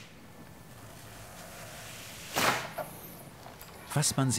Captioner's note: quiet squeaking, then a crashing stop